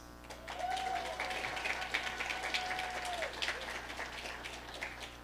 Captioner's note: audience applauding